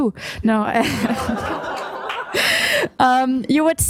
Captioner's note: laughter